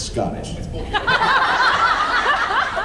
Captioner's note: laughs